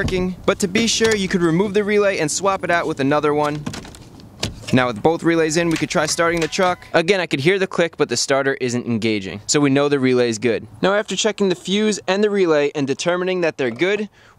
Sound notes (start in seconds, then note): 6.1 starter motor clicking